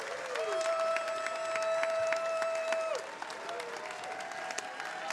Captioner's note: attendees cheering and applauding